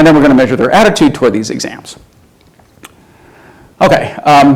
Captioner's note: none